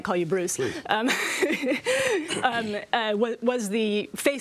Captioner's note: laughs